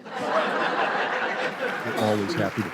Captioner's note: audience laughs